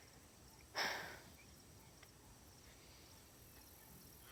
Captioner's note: sighs